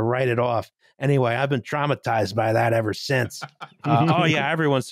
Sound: laughing

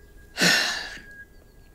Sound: sighs

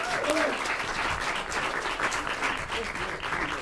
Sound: applause

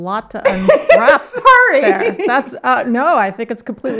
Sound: laughing

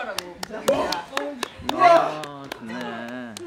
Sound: applause

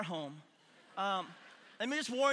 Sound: congregation laughing

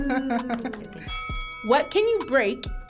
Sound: bell dings

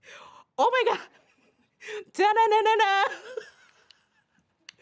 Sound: laughs and sings

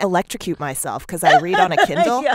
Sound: laughter

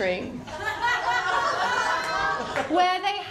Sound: laughter

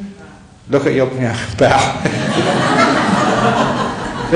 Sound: laughter

